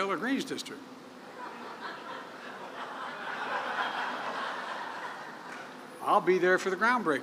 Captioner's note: laughter